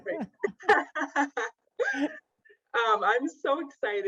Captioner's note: laughing